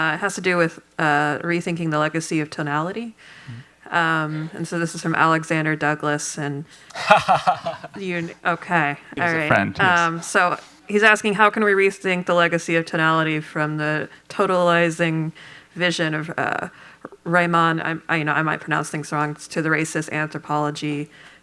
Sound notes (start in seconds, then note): 6.9 laughter